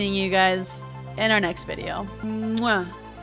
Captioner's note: kiss